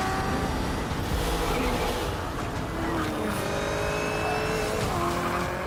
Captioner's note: engine buzzing